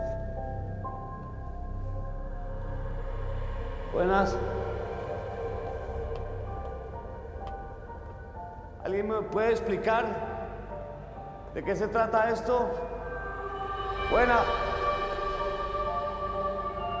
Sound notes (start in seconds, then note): none